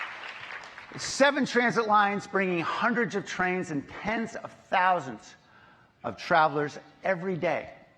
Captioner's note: applause